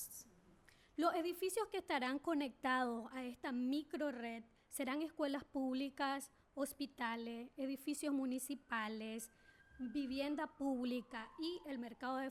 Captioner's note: speaking spanish